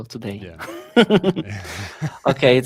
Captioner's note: laughter